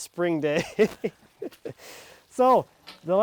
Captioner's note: laughing